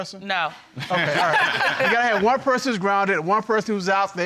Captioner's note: both laughing